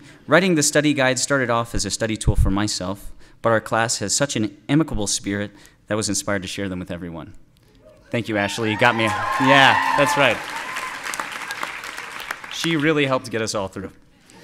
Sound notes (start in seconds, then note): 8.2 audience cheering